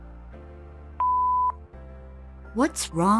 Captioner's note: beep